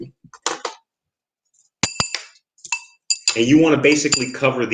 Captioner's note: stones clatter on glass